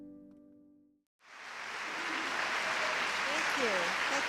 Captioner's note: applause